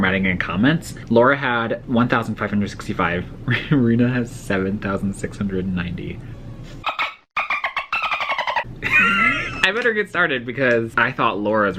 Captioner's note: dolphin noises then laughs